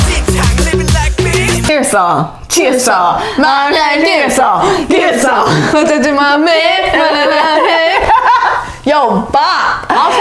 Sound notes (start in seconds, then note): 2.5 Imitating SUGA's rap part, poorly